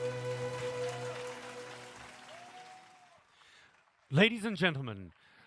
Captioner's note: applause